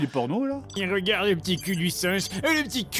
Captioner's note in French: Voix bizarre